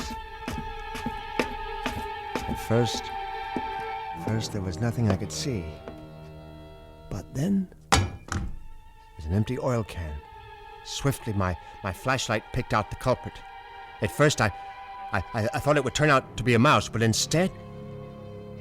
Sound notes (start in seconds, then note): 0.0 footsteps; 7.9 thudding